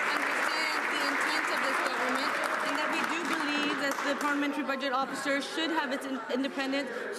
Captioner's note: some Applause